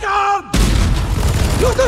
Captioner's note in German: Explosion, Schüsse